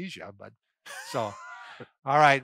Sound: laughing

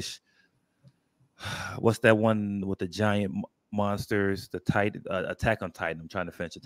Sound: exhales

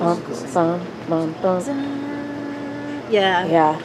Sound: humming

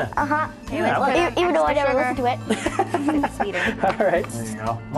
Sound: laughter

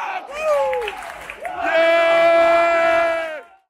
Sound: cheering

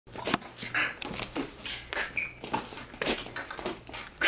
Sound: beatboxing

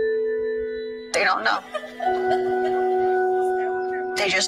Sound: girl laughing; melancholy music continues

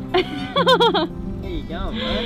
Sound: laughs

